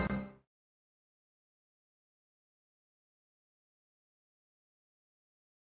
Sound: orchestral music plays; silence

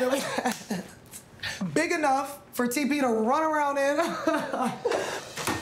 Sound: both laugh; laughs; doors swoosh

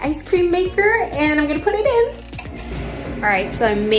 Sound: ice cream maker churns; knob turns

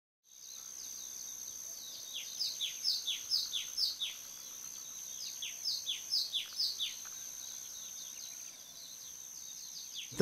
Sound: birds chirping

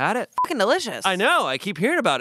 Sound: beep

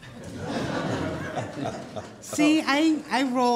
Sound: laughing

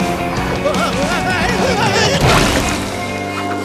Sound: screaming

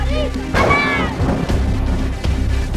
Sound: thunderclap

